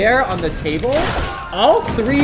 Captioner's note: gun firing